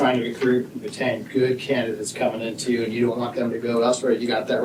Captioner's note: none